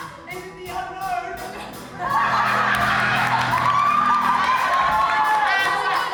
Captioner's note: audience laughs and cheers